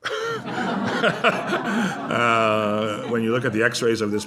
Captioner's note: laughter